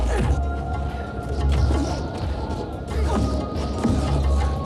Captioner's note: dramatic music; both moaning